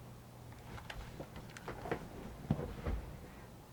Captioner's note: camera handling noise